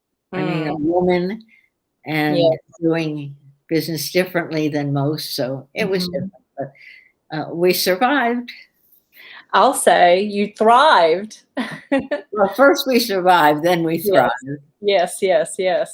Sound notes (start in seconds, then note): 11.7 laughs